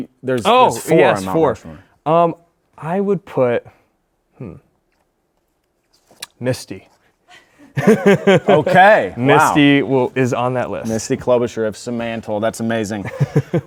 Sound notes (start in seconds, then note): 7.4 laughs